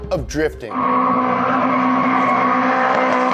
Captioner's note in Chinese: 轮胎尖叫